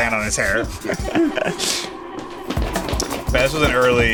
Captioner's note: laughs